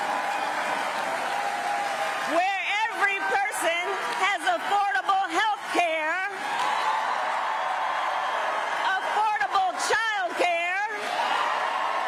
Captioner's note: applause